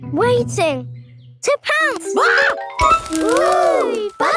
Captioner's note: screams